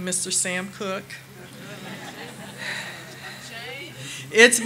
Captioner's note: audience laughing